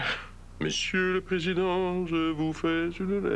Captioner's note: chantonnant